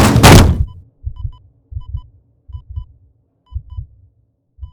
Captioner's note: machine beeps slow down